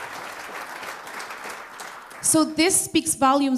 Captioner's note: applause